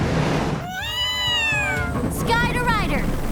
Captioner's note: meowing